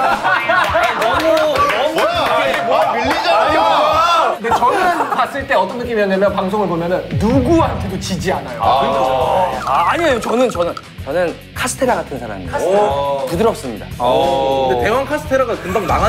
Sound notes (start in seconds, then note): 2.7 jeering